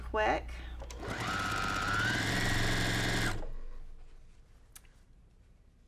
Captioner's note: sewing machine humming